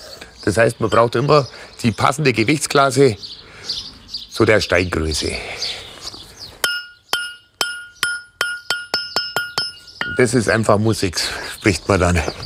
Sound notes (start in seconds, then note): 6.5 bright sound